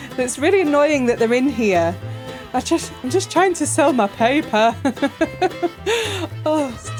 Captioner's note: laughing